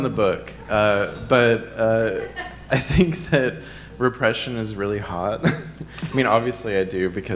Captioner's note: chuckles